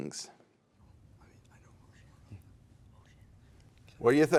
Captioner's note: whispering